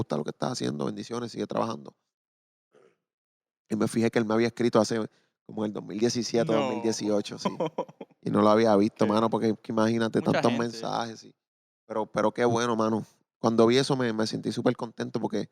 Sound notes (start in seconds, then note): 7.4 laughing; 11.2 speaking Spanish